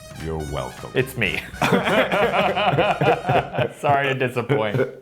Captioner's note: Luke and Billy laugh